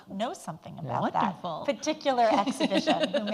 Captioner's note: laughs